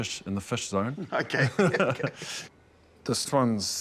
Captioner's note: laughs